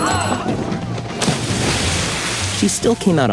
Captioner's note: water splashing